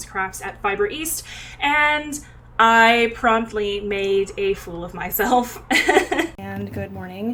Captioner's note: laughs